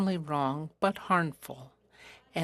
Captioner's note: speaking FRENCH